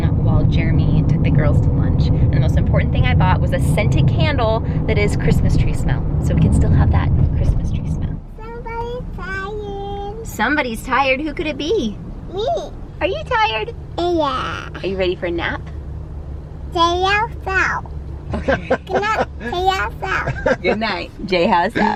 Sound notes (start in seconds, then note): 18.3 laughs